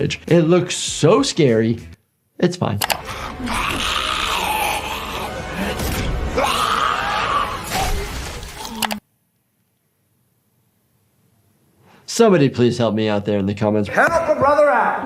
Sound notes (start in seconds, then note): 2.9 ominous music; 3.0 villain screams; 7.0 keys clack; 7.6 blood splatters